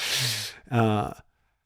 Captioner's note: laughing